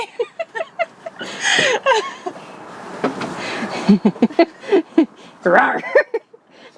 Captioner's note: more laughter